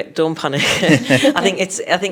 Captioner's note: all laughing